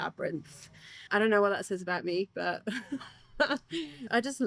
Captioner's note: laughs